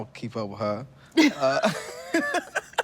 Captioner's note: all laugh